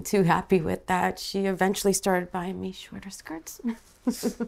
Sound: laughing

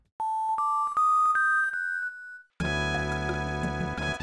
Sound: Mani Mani statue sound

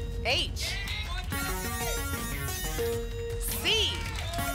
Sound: futuristic sounds

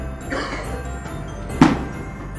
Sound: cough

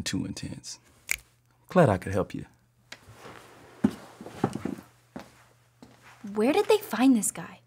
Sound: snaps fingers

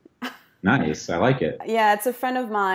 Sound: laughing

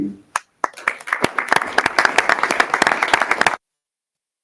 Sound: audience applauding

